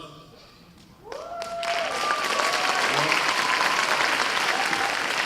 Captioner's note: cheers and applause